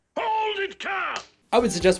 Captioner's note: smack